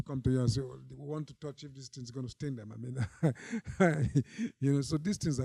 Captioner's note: laughs